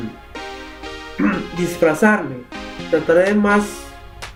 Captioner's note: clears troat